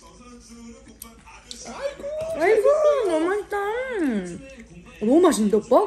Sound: tears

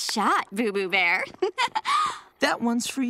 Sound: laughing

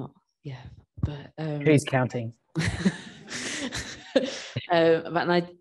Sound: laughs

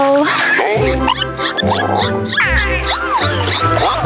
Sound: dolphins chittering

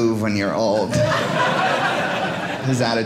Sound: audience laughing

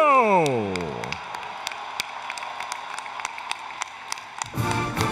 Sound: applause, Cheering

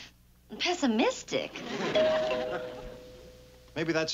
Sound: doorbell rings

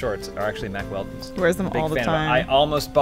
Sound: exasperated

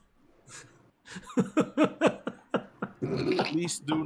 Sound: laughing

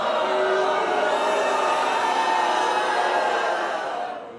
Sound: crowd jeers

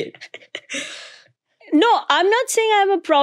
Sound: laughing

